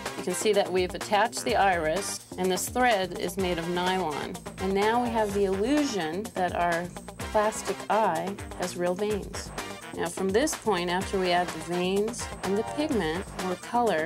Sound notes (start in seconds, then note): none